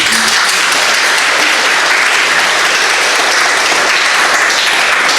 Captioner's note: audience applauding